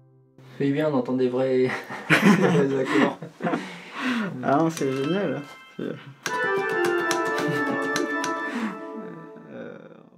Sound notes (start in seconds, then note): 1.7 laughs